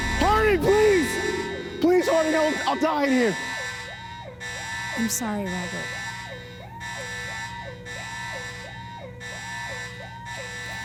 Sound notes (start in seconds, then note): 4.6 more alarms blaring